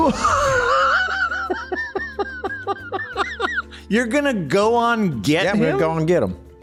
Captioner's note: laughs